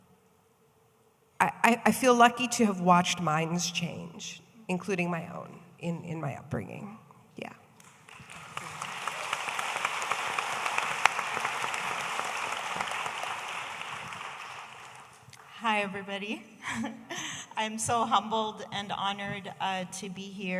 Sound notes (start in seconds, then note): 7.8 audience applauding